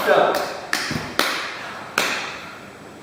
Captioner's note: clapping